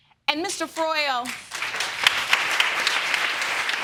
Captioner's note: audience clapping